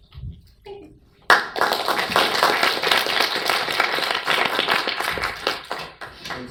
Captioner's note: all applaud